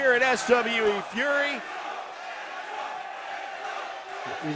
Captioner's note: crowd cheering